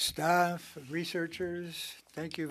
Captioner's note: speaking French